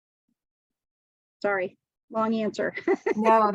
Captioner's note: laughs